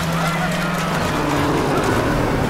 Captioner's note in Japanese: クラーケンのうなり声